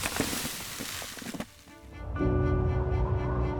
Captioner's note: debris clattering; light thoughtful music; wind whistling